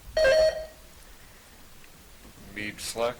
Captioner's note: buzzer chiming